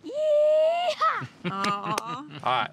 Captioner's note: claps